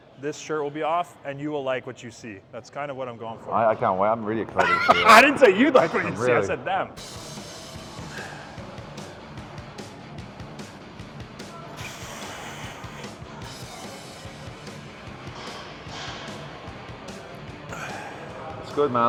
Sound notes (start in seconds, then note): 4.5 laughing; 8.6 upbeat rock music; 14.7 upbeat rock music continues